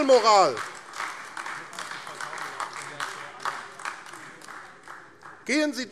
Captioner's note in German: Beifall AfD